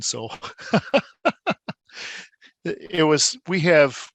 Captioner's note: laughing